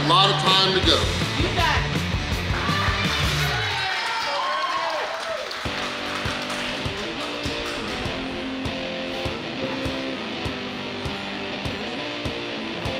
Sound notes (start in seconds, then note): 2.3 vigorous rock music; 2.4 crowd clapping; 2.4 crowd cheering; 5.6 adventurous rock music